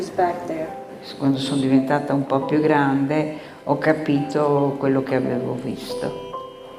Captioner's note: speaking in foreign language